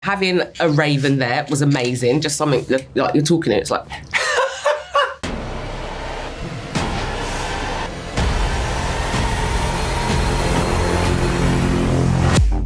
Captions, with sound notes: Having a raven there was amazing. Just something-- like, you're talking and it's like-- [LAUGHS] [SUSPENSEFUL MUSIC]